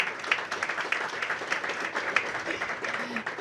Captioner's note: applause